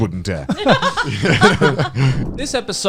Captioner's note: laughing